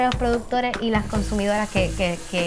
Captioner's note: none